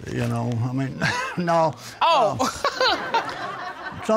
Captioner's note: laughs